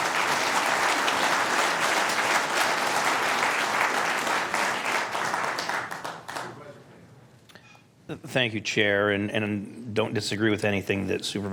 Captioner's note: applause